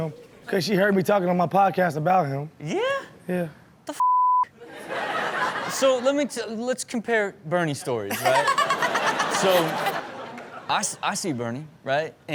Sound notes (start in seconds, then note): 4.6 crowd laughs; 8.1 Chanel laughs; 8.1 crowd laughs